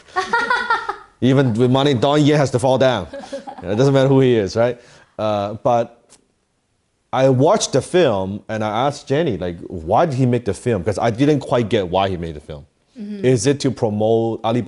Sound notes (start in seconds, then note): 0.1 laughs loudly; 3.1 chuckles